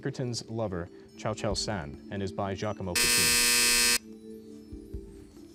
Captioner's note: final buzzer